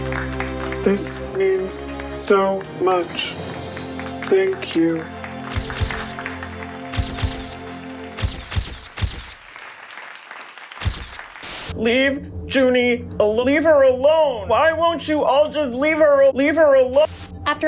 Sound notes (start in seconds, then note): 6.9 camera shutters